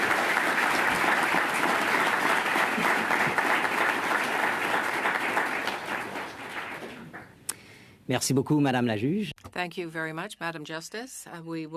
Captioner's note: applause